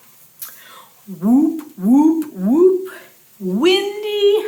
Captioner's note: whooping sound